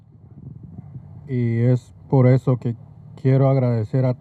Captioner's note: speaking Spanish